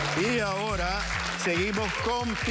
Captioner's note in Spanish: Aplausos